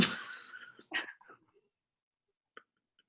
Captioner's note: laughing